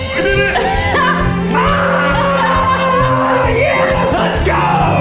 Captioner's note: laughs; screams